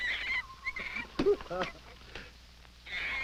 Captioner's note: fruit thwacking; monkey shrieking